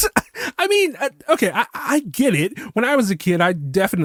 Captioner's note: sigh